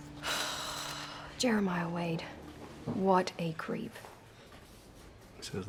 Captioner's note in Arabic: تتنهد بيكي